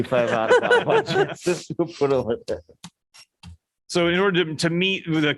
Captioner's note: laughter